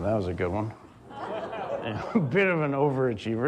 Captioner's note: audience laughs